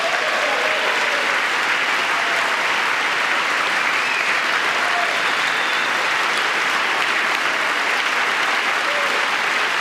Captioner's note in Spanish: aplausos